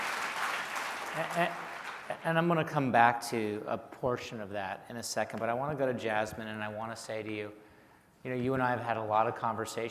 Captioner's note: applause